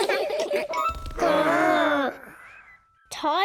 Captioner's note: all laughing; all growling